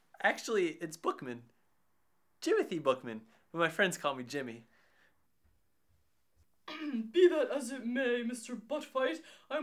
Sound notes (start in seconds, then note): 6.6 clears throat